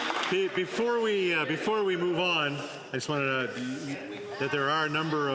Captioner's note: some Applause